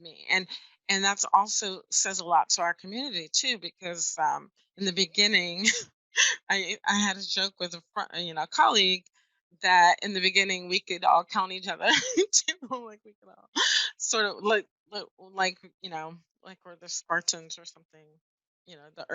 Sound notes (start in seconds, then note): 5.6 laughs; 13.1 laughs